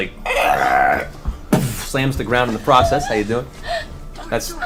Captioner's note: growls